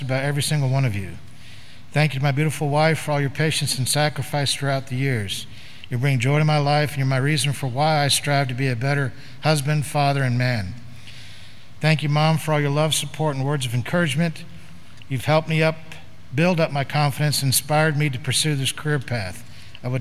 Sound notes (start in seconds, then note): none